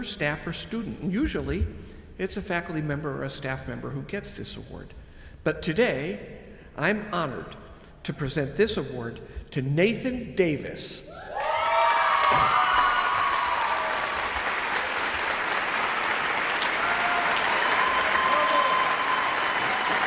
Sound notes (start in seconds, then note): 11.1 people cheer; 11.3 audience applauds